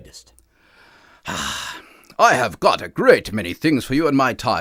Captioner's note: sighs